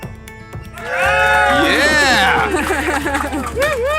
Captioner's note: crowd cheers